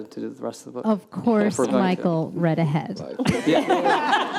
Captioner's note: laughter